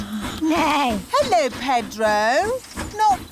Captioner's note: neighs